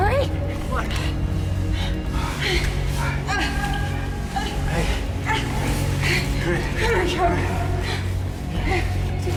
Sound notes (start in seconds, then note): 2.8 grunts